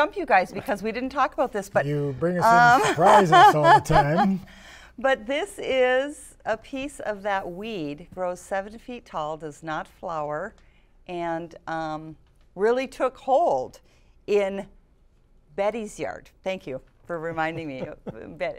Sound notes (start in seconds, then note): 6.3 laughter